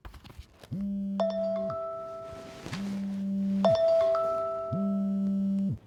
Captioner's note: phone vibrating and ringing